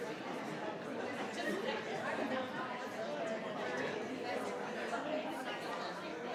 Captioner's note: crowd talking continues